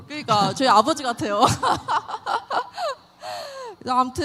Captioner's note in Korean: 웃음